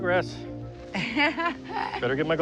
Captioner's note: laughing